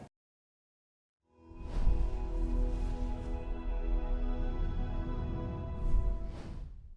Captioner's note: light airy music; whooshing